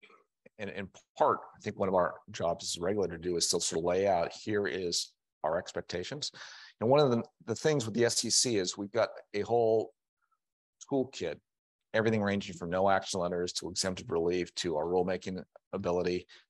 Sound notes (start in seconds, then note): none